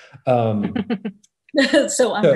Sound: laughs

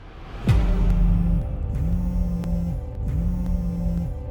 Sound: sinister music playing; phone vibrating

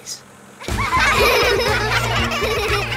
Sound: laughing

